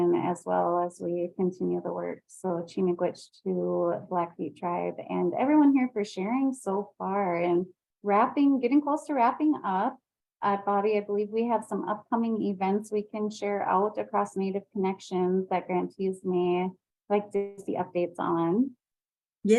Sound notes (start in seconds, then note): 2.3 speaks in foreign language